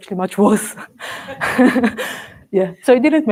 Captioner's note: laughs